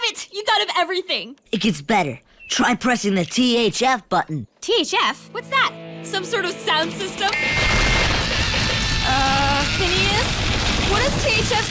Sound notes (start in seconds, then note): 7.6 rumbling